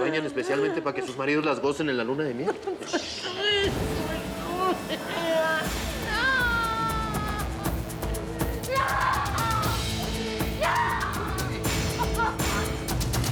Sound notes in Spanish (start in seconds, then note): 4.1 sollozos; 8.6 grita